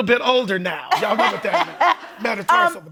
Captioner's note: laughing